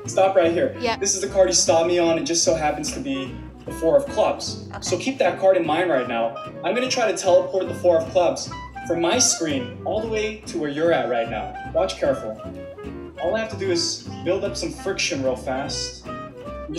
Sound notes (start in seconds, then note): none